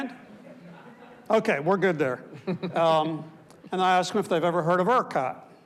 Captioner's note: panelist laughs